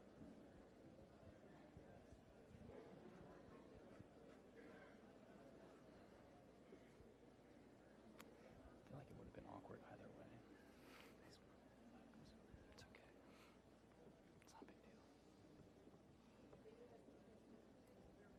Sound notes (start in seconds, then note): 9.0 quietly